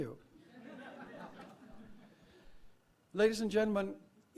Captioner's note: laugh